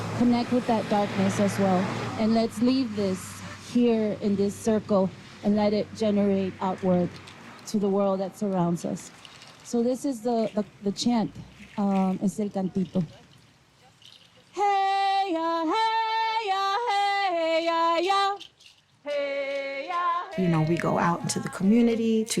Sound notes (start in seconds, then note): 10.7 speaks in foreign language